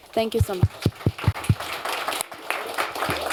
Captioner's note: applause